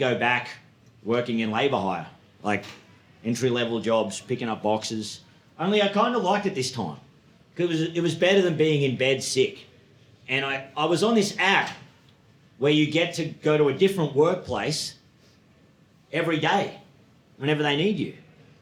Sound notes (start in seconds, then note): none